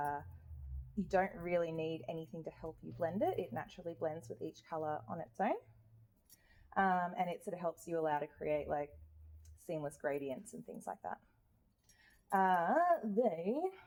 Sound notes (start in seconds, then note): none